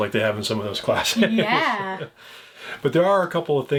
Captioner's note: chuckles